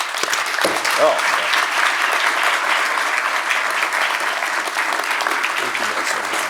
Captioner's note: applause